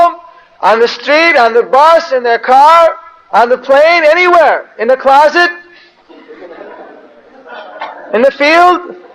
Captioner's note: devotees laugh